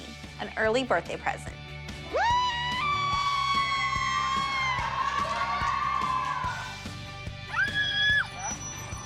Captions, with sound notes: an early birthday present. [cheering and squealing] [squealing]